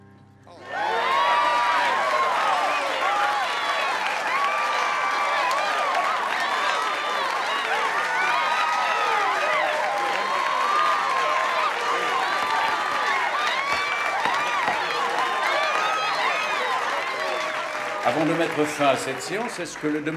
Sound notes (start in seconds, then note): 0.3 crowd clapping and cheering; 12.0 gavel banging